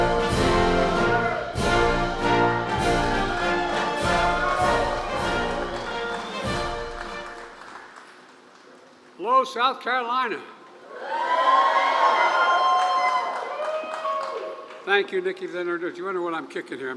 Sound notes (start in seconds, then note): 12.4 applause